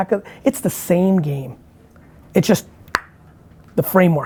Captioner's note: clicks